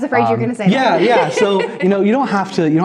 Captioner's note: laughs